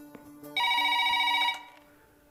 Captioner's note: Phone rings